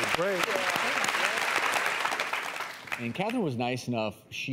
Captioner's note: applause